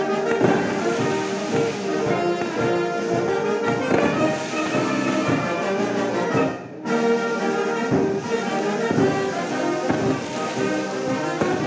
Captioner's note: fireworks exploding; fireworks booming